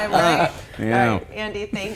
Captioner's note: laughing